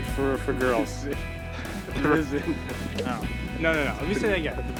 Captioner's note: laughing